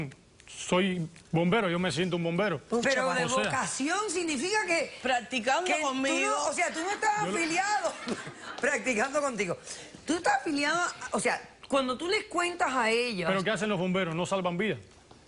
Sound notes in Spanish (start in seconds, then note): 7.7 risas